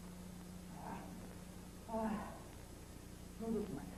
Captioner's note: Shogun breaths in confused distress